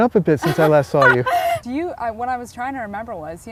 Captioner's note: laughing